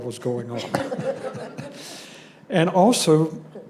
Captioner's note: laughter